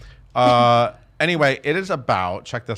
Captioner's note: chuckle